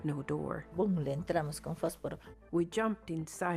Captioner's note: speaking in foreign language